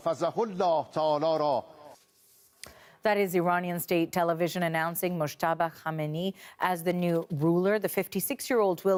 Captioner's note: speaking Alternate Language